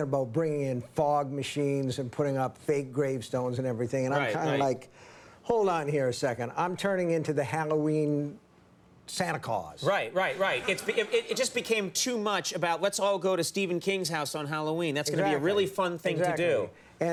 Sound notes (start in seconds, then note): 10.3 audience laughing